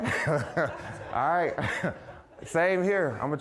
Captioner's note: chuckling; audience laughing